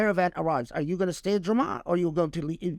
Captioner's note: speaking Arabic